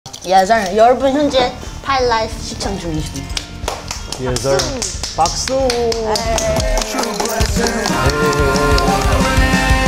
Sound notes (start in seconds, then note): 3.3 clap; 4.4 A round of applause!